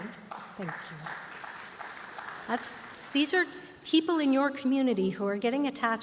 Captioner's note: applause